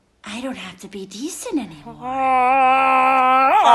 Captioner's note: groaning